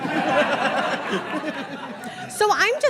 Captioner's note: audience giggles